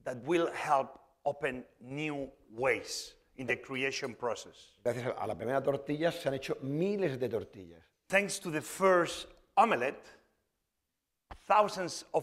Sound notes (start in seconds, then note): 5.3 speaking spanish